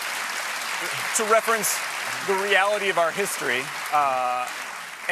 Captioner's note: applause